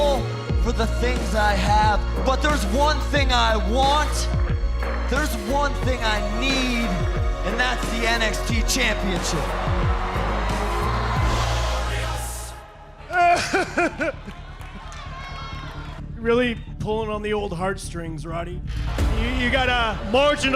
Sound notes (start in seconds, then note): 10.4 cheers and applause; 13.0 crying loudly